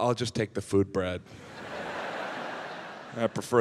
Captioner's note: audience laughs